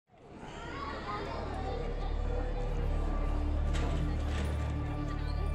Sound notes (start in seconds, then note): 0.2 kids chattering; 1.5 troubled music